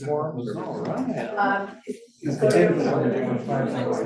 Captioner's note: students chattering